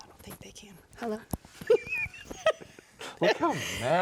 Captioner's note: both chuckle